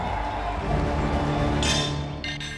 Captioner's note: crowd cheering; hammering horseshoes and scrapping loudly